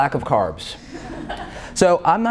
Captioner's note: laughter